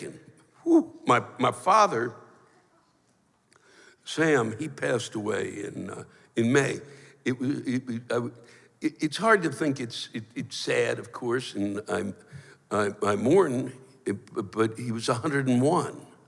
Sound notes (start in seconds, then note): 6.9 stammers; 11.1 stammers